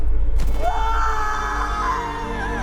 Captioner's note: Olga screaming; dramatic music